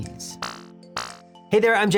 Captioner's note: electronic buzzing